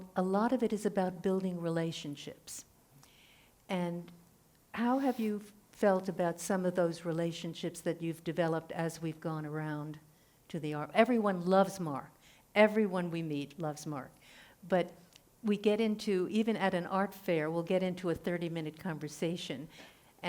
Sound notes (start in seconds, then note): none